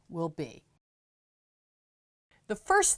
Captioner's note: no Sound Present